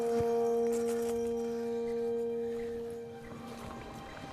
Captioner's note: insect buzzing